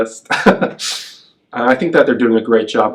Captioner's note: laughs